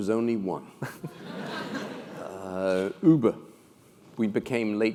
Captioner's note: laugh